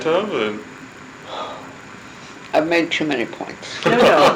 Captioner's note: sigh; laughter